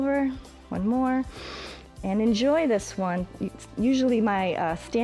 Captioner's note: inhales